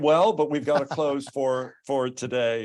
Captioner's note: chuckles